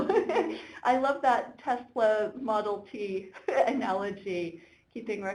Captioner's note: laughing